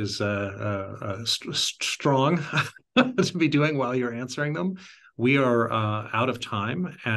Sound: laugh

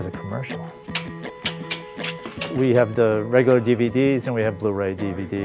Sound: sound of breaker switches

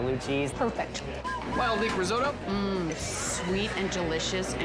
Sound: whistle blowing

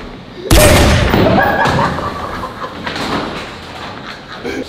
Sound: lads laughing

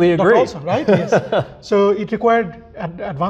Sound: laughs

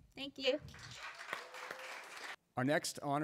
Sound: applause

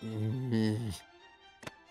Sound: groaning

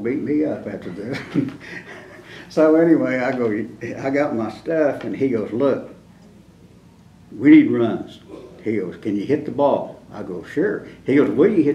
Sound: laughter

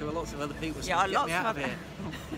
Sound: laughs

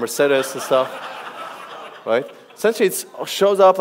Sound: audience laughs

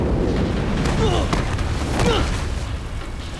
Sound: groaning

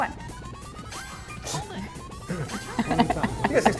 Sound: laugh

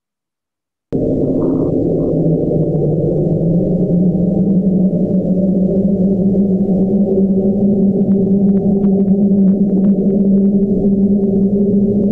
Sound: ominous wind

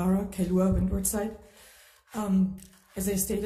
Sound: speaking Hawaiian

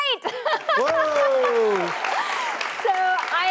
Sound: applause

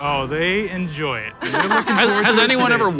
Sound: laughing

